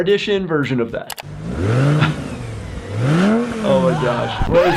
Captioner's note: car engine roaring